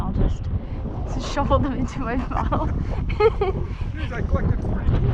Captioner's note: laughs